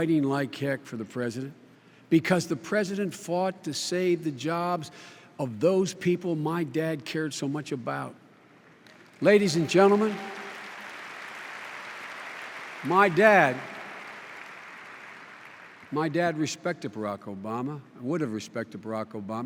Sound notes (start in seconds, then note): 8.6 applause